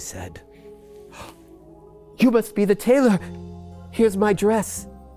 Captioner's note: gasps